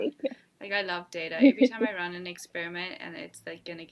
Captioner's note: laughs